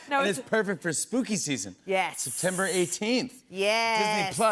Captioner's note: none